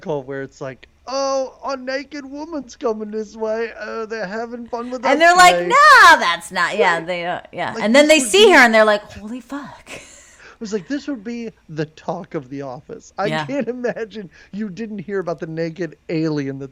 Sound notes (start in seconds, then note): 10.4 laughs